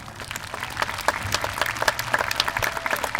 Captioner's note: applause